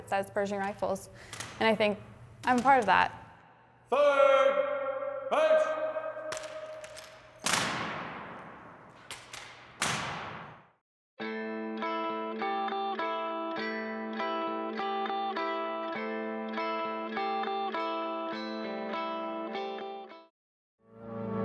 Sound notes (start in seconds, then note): 6.3 rifles smacking; 11.1 upbeat music